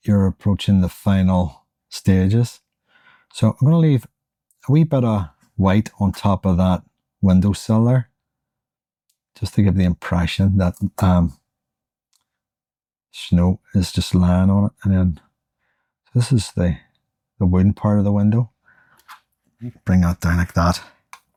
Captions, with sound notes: you're approaching the final stages. So I'm going to leave a wee bit of white on top of that window cellar, just to give the impression that snow is just lying on it. And then this is the wooden part of the window. [silence] We can bring that down like that.